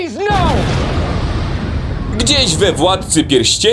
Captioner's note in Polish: boom!